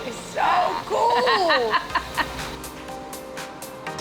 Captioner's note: laughing